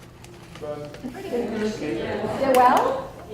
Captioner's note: multiple voices answering